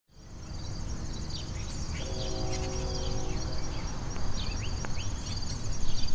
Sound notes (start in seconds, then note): 0.5 birds chirping; 1.9 train horn honks